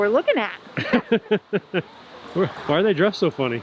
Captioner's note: laughing